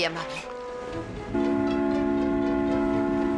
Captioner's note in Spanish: silbido